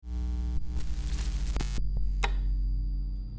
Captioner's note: electricity crackling; magnets clicking